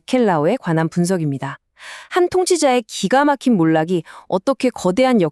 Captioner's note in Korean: 헉 소리